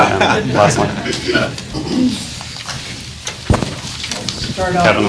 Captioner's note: class laughing